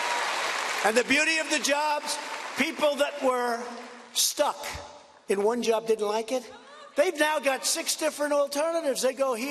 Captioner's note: applause